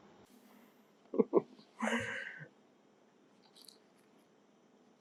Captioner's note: laughing